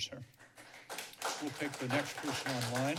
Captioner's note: applause